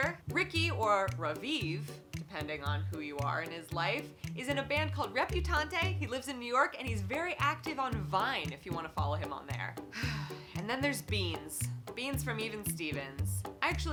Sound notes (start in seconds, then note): 9.9 sigh